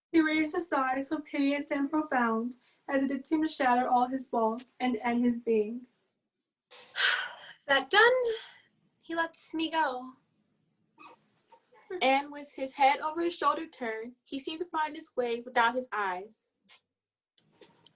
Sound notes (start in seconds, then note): 6.8 sighing